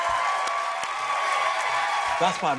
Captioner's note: cheering and applause